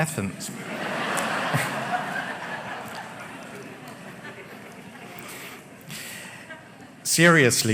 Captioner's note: laughter